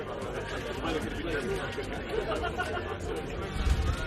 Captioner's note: people chattering